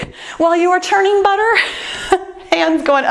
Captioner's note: laughs